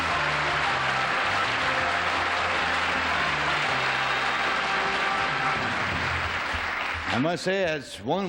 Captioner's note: applause